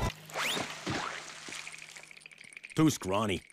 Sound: teeth chattering

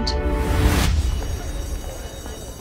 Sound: school bell

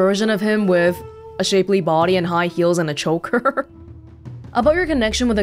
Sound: chuckles

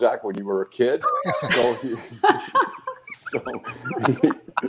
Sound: laughing

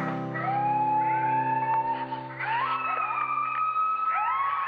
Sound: coyotes howling

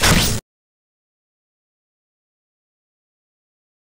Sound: silence

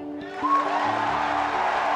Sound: applause

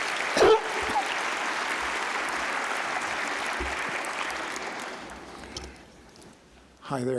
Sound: applause

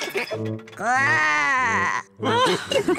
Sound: laughs; growls; all laugh

